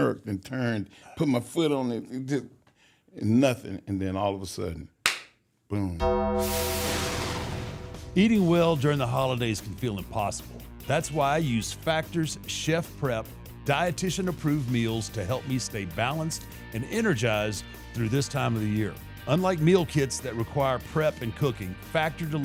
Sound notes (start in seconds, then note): none